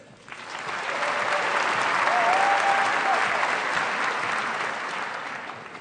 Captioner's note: applause